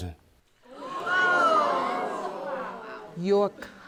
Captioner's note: audience gasping